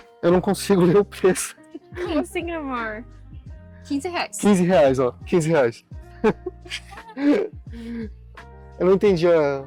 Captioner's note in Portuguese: risadas